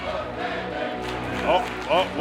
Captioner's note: fans chanting